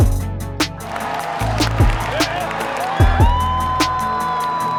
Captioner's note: crowd cheers